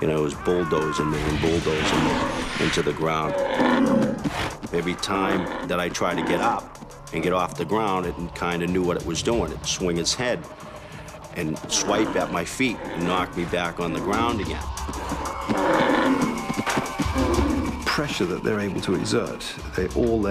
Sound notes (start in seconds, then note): 16.0 bull bellowing